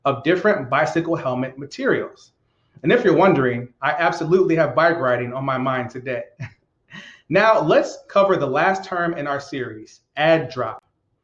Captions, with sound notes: of different bicycle helmet materials. And if you're wondering, I absolutely have bike riding on my mind today. (laughs) Now, let's cover the last term in our series, add/drop.